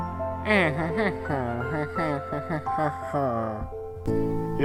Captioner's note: Wacky Walter whispers